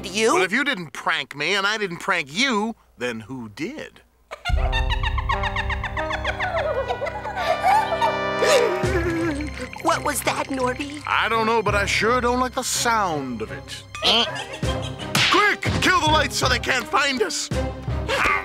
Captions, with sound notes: WELL, IF YOU DIDN'T PRANK ME AND I DIDN'T PRANK YOU THEN WHO DID? ( loud, squeaky giggling ) ( both gasping, teeth chattering ) WHAT WAS THAT, NORBY? I DON'T KNOW BUT I SURE DON'T LIKE THE SOUND OF IT. QUICK, KILL THE LIGHTS SO THEY CAN'T FIND US.